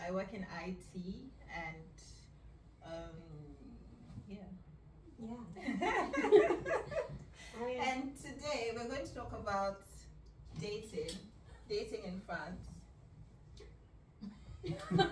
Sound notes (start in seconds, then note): 5.6 laughs; 13.2 silence